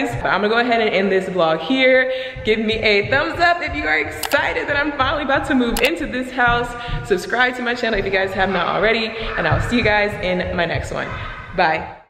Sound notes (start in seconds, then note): 4.2 mouse clicking; 11.1 exclaims